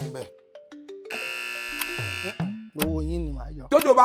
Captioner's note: buzzer pressed